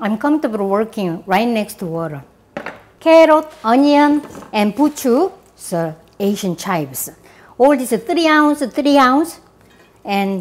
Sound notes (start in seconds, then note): none